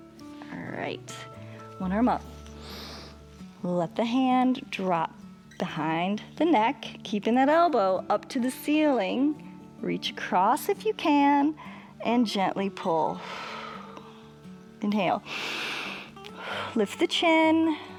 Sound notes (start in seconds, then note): 2.5 inhales; 15.2 exhales; 15.2 inhales